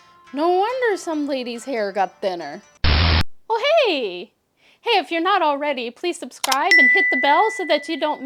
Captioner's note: static